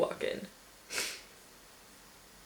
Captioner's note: sniffles